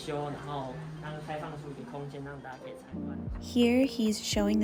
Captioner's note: foreign